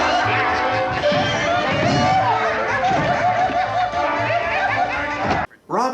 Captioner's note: laughter